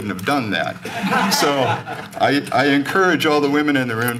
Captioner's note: laughter